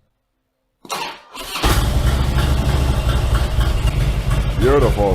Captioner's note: engine starts and runs